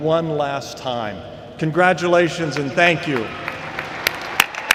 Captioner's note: applause